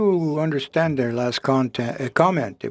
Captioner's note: speaking French